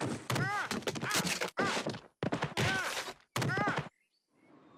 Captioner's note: Peter shouting